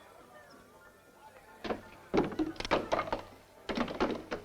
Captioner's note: guns clattering